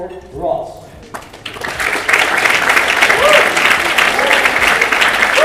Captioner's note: audience applauding